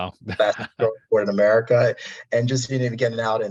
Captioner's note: audio distortion